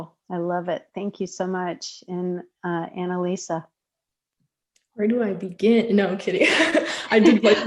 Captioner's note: laughing